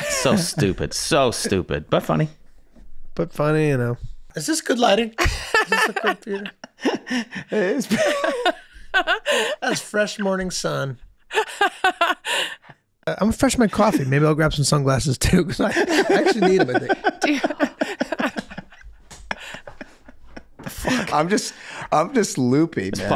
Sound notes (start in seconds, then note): 11.3 Megan laughing; 17.7 Rob laughing